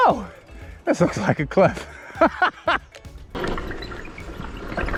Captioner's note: laughs